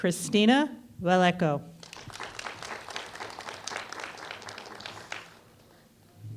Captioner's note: applause